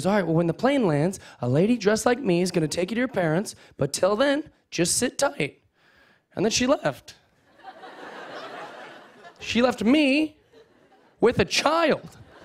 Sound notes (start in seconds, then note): 7.4 laughter